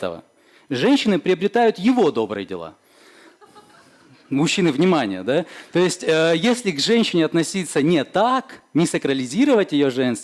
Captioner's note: audience laughs